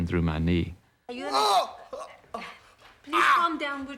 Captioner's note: moaning